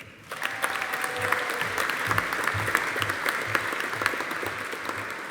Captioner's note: audience applauding